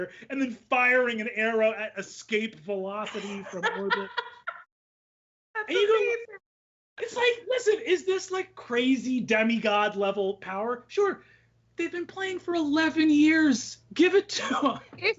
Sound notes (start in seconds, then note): 3.0 laughs